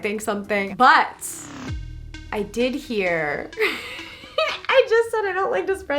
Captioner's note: laughs